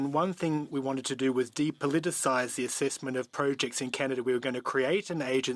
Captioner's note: speaking French